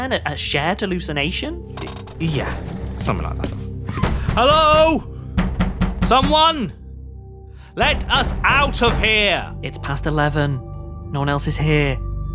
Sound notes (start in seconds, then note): 4.1 banging on door